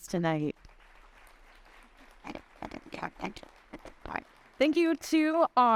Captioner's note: audience applauding